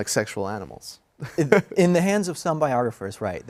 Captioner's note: laugh